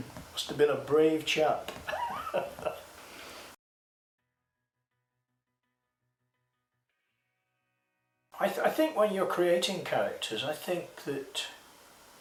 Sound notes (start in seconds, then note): 1.8 laughs